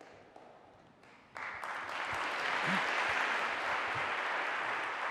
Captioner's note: applause